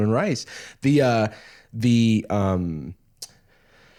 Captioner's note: normal voice